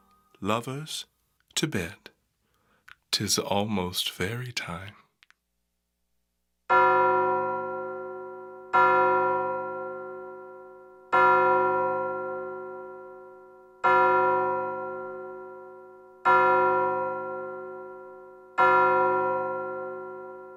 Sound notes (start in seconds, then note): 6.7 clock strikes twelve